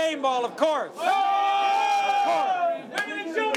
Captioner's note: cheering